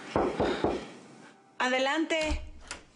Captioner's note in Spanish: Toques en la puerta